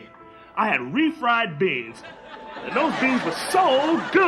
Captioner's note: audience laughs